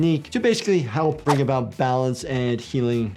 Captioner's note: graphics whooshing